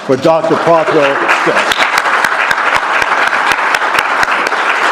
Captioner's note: applause